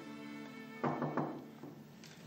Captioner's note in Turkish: Kapı çalar